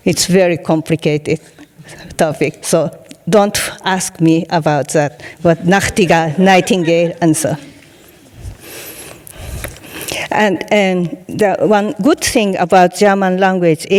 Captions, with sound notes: It's very complicated topic, so don't ask me about that. But (speaking in foreign language) nightingale answer. (audience laughing) And the one good thing about German language